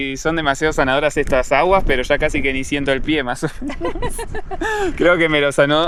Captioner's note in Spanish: risas